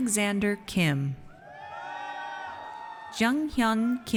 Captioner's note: audience cheers